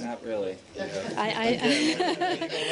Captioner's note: laughter